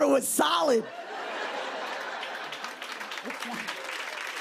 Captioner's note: laughter and applause